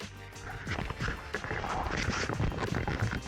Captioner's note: rustling and rushing